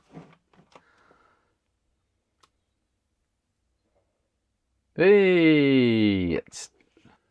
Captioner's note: silence